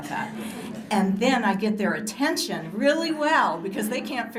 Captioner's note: laughter